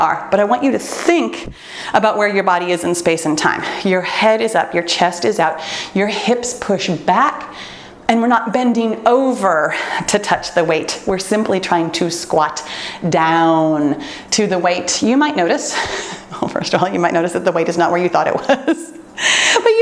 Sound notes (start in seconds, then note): 16.1 laughs